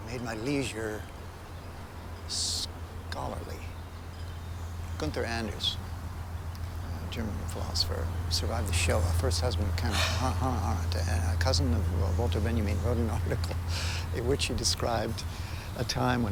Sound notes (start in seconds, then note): 10.0 Laura sighs